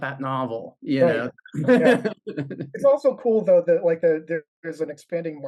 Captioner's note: laughs